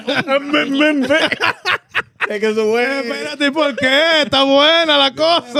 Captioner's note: laughing; speaking In Foreign Language; imitating Drumming